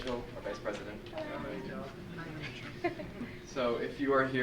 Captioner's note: laughs